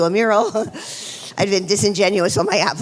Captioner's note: chuckles